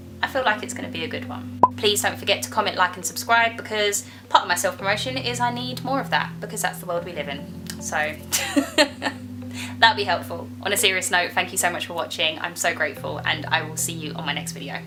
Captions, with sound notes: I feel like it's gonna be a good one please don't forget to comment like and subscribe because part of my self-promotion is I need more of that because that's the world we live in so *laughs* that would be helpful on a serious note thank you so much for watching I'm so grateful and i will see you on my next video